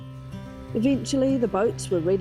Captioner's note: outboard motor sounds